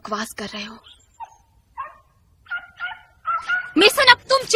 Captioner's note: dog whimpering, barking